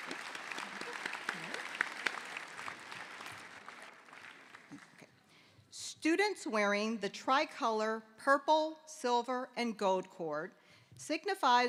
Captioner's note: applause